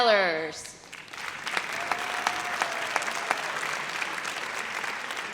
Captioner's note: audience applauds